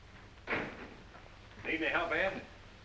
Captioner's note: door closes